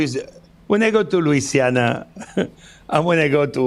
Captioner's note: laughs